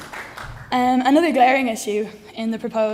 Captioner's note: applause